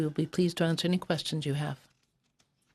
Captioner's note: speaking French